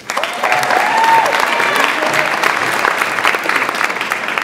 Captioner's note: audience applauds